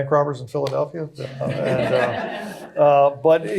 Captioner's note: laughter